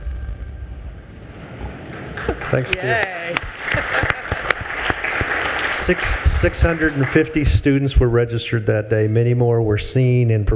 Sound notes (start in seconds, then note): 0.9 water whooshing; 4.2 attendees applauding